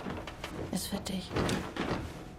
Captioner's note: in German